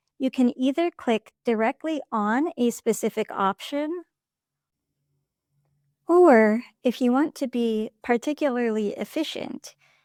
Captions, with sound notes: you can either click directly on a specific option [silence] or if you want to be particularly efficient,